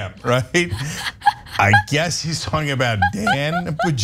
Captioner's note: laugh